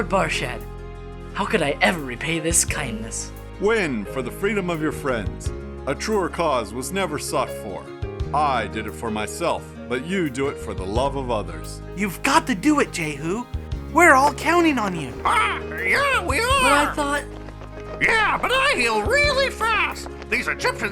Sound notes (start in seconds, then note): 15.7 צווחה